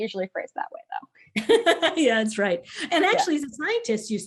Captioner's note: laughs